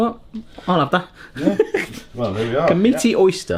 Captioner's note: laughing